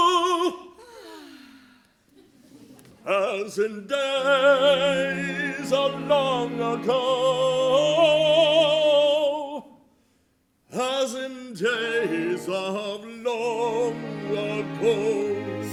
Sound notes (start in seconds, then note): 0.8 ladies sigh